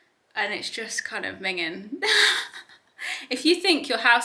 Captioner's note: chuckling